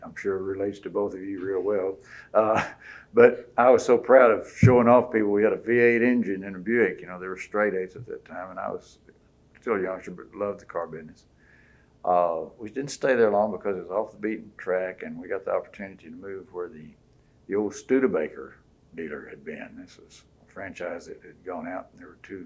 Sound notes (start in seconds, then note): 2.3 laughs